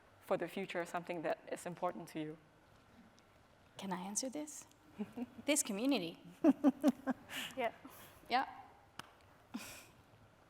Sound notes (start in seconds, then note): 6.4 chuckling